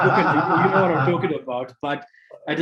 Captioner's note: laughing